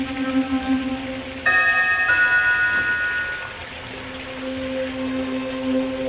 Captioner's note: doorbell ringing; eerie music